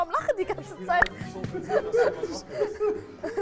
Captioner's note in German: Lachen, Gemurmel